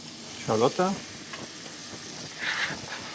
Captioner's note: sizzling